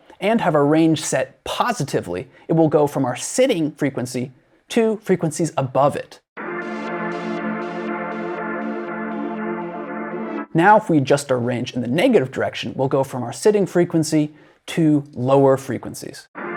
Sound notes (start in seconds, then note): 6.4 sample plays in a higher frequency